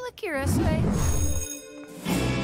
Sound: bell ringing

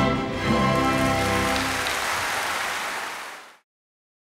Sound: applause

